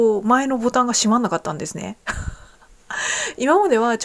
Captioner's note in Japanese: 笑い